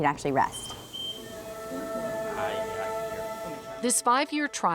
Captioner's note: monitor beeping